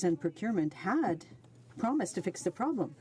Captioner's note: speaking French